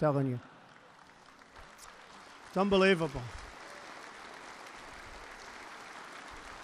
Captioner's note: laughter and applause